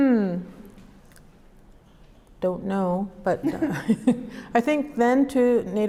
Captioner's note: both laugh